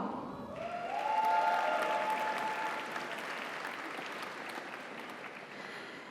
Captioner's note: audience cheers; audience applauds